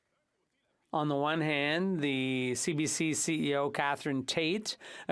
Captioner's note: speaking French